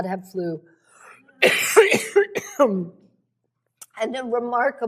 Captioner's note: coughs